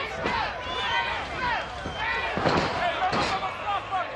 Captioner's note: audience chanting